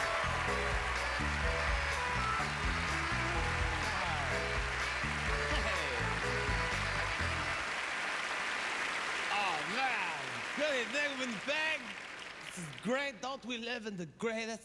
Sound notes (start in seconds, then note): 0.2 applause; 7.0 applause